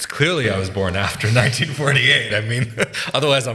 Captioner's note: laughing